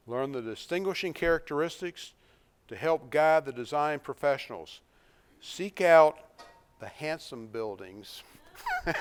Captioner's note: laughs